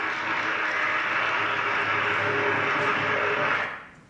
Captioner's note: audience applause